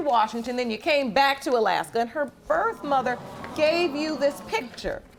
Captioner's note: audience exclaiming